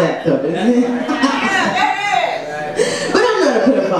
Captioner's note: audience yells